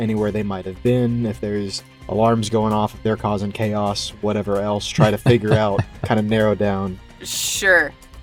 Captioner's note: chuckles